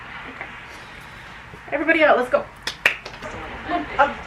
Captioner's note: clap clap